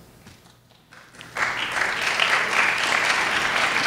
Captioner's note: crowd applauds